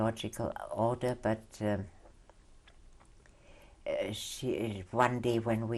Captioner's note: pauses for 3 seconds